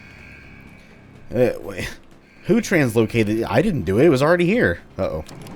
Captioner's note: klaxon alarm continues